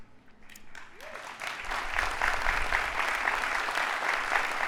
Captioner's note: audience applauding